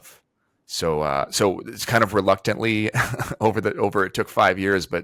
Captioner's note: chuckles